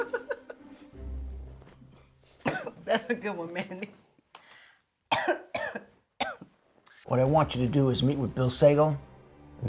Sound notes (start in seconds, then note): 0.0 Lolita laughs; 5.1 coughs